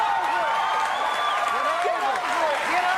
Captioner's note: audience cheering